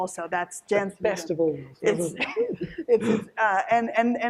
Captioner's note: laughs